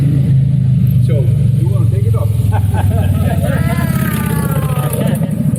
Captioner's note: Sadhguru laughs